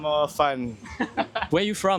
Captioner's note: laughs